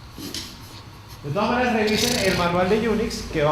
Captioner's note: cameraman blows out